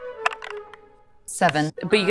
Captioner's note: die rattling